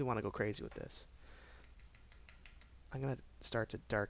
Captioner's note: keyboard tapping